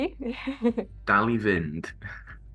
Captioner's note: in Welsh